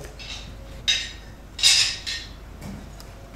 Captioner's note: metallic clanging